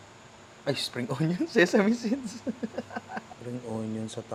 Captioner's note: laughs